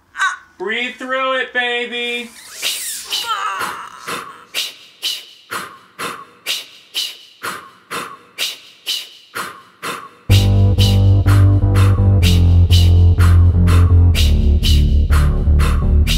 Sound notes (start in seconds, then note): 3.6 rhythmic breathing starts; 7.8 breathing continues